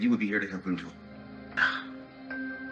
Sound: Mimi gasps

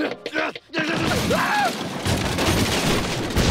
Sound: grunting; shrieks

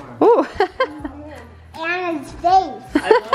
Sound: laughing

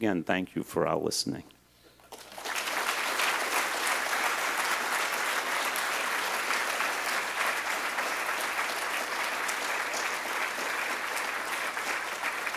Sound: applause

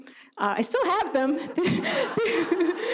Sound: audience laughs; laughs

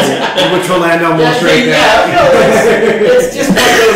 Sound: laughter drowns out speaker

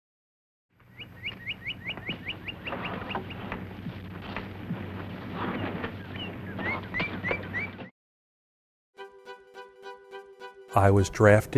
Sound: birds Chirping

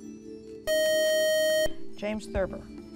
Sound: beeping

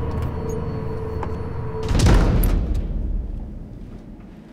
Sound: doors slamming

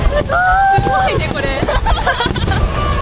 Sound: laughs

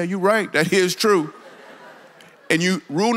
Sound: congregation laughs

